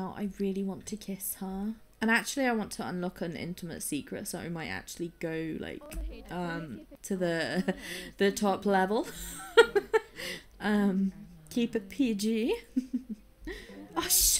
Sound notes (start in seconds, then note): 9.0 laughs